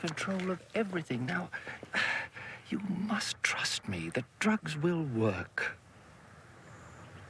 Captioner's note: sighs